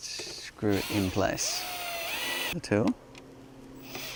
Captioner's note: drilling